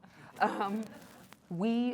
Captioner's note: laughter